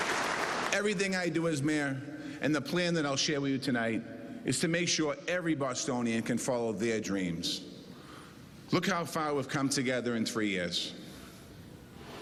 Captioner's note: cheers and applause